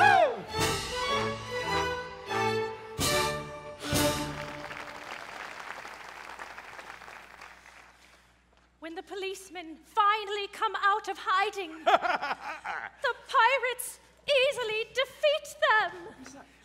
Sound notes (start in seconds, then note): 3.9 audience applauds; 11.8 pirates laughing